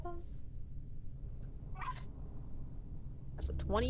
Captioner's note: woof